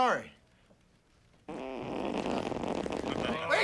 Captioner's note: farting sounds